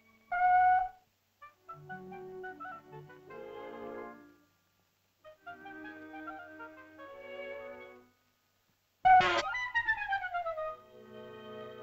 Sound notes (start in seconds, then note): 0.2 shell toots; 1.7 whimsical music; 9.1 shell toots and sputters; 9.5 whimsical music